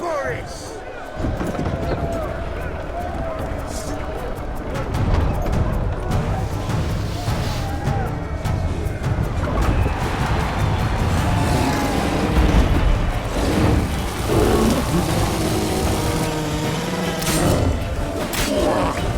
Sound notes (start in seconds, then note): 1.1 gate mechanism rumbling; 10.0 cheering intensifies; 13.3 roar; 14.1 flames crackle; 16.6 howl